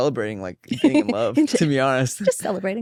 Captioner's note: laughs